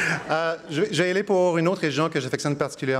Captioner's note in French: rires